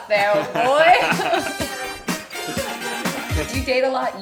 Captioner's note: upbeat music; laughing